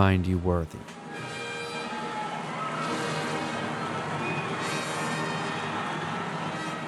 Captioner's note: dramatic music continues; crowd cheering